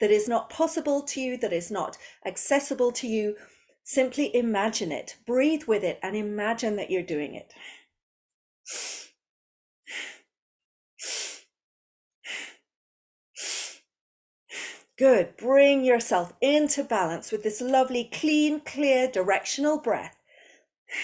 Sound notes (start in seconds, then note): 14.5 breathes